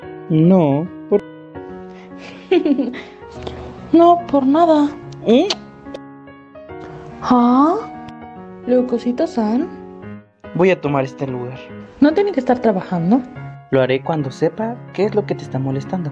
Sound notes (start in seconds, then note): 2.2 giggles; 5.0 kiss sound